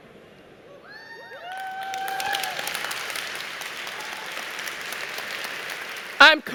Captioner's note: cheering and Applause